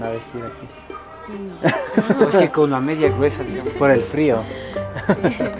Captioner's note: in Spanish; laughter